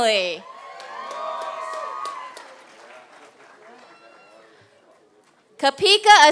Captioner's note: applause and cheers